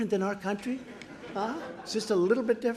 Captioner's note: laughter